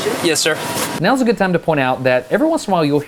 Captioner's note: narrating